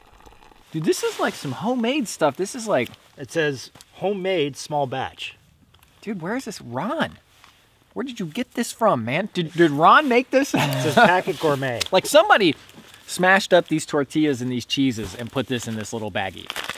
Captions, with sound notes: Dude this is like some homemade stuff. This is like... It says, "Homemade, small batch" Dude, where is this . . . Ron! Where did you get this from man? Did Ron make this? (laughs) It says "Packet gourmet" Like, somebody smashed up these tortillas and these cheeses and put this in this little baggie